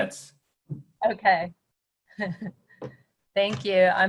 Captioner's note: laughs softly